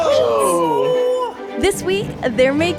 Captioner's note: they cheer